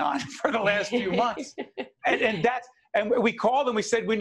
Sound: laughing

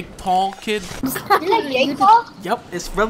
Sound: laughing

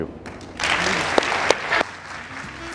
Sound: audience applauding; lively music

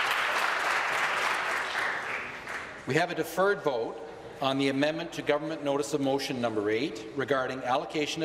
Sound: applause

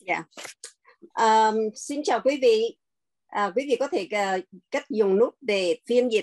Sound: speaking in Vietnamese

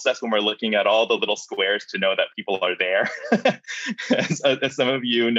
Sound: laughs

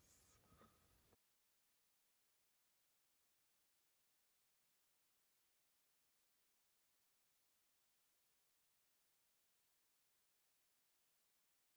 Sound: silence

